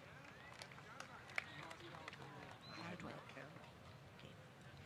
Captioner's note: applause